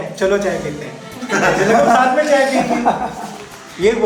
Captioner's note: laughs